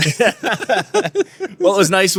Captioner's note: laughing